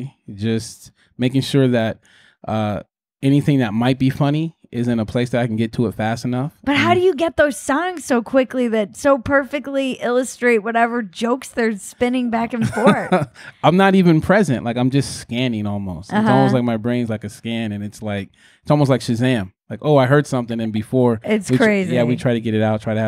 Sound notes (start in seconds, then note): 12.6 chuckles